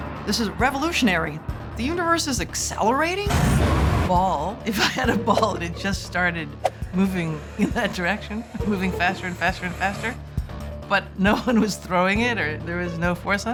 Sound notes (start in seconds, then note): 4.0 laughing